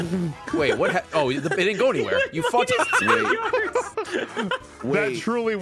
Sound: laughs

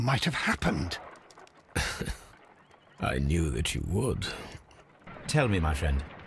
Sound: faintly chuckling

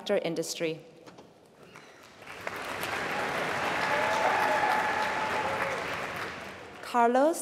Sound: applause

